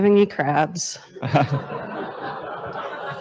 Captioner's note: laughter